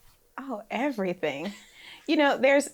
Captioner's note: laughs